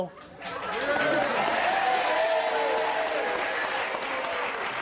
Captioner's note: audience cheering